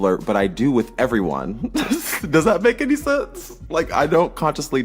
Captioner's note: laughter